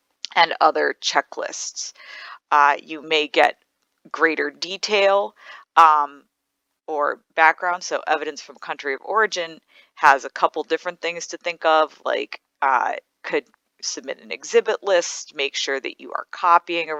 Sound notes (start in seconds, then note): none